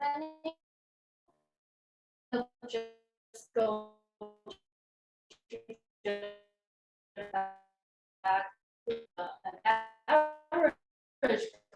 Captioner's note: audio dropping